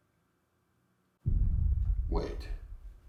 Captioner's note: footsteps stomping